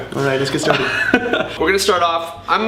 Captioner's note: laughing